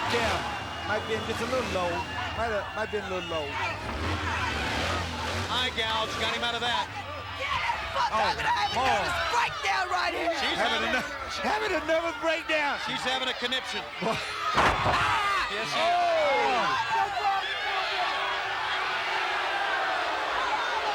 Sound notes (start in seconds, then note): 7.1 person yelling; 17.9 audience booing